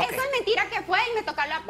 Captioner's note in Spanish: hablan al unísono